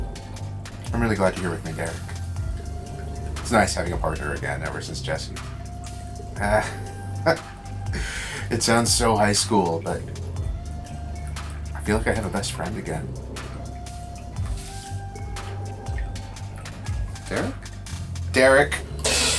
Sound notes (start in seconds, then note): 6.4 William laughing